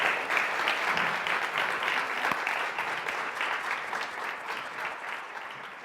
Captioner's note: clapping